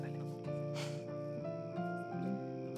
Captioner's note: Laughs